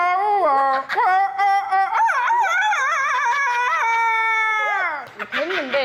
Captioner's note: cock-a-doodle-doo